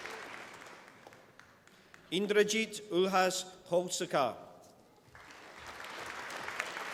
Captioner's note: applause